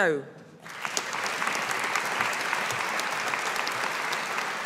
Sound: audience applauding

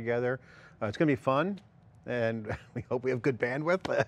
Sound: laughs

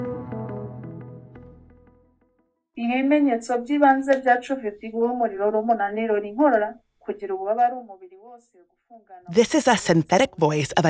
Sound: foreign language 00:00:48

